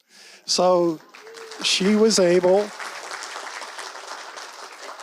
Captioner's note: audience applauds